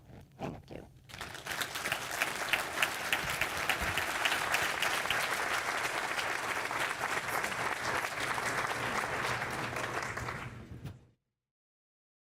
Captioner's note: applause